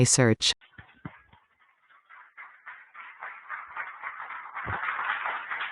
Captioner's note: applause